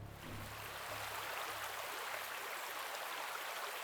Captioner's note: river flows